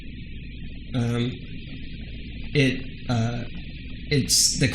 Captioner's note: hums